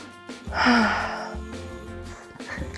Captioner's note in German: Erleichtertes Seufzen